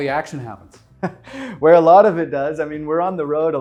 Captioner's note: chuckling